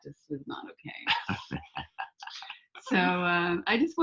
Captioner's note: laughing